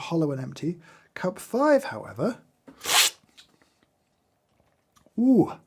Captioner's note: slurps sharply